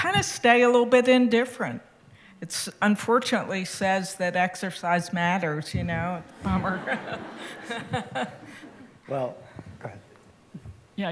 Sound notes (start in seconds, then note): 6.4 laughter